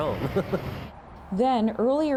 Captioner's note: laughter